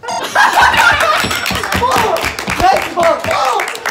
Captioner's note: laughs